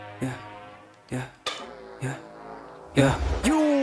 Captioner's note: man spits; rap music